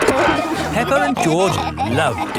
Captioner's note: peppa and george laughing